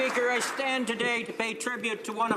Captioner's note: some Applause